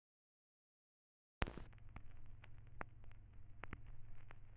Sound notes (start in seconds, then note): 1.4 static